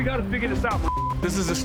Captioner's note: beep